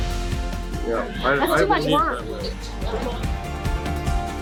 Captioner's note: upbeat music; group talking; upbeat music